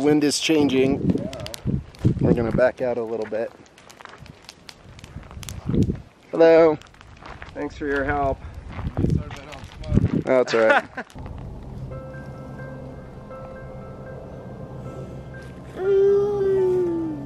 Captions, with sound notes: Well the wind is changing, we're gonna back out a little bit. Hello, thanks for your help. (laughing) Oh that's alright. (light piano music)